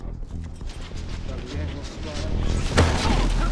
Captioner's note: clatter